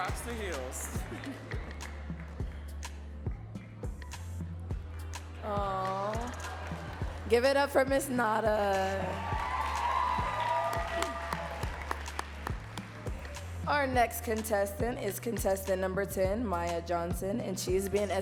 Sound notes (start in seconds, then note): 10.7 audience cheering and clapping